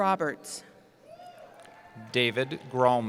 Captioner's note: cheering